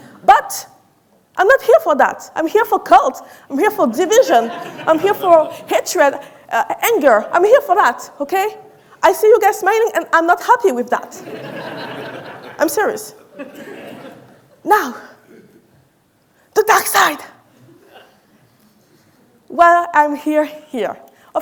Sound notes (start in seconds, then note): 11.2 audience laughing